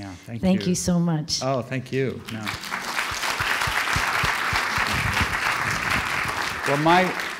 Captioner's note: applause